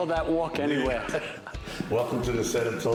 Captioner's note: laughter